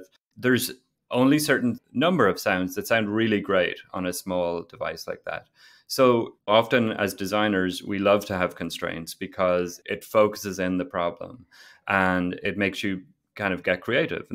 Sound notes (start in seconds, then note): none